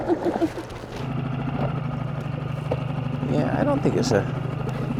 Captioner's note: laughs; engine rumbles